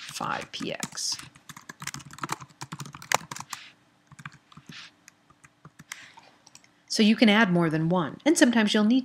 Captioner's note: typing